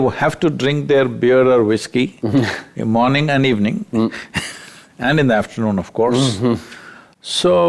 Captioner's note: laughs